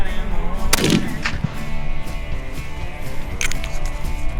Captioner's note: gun shot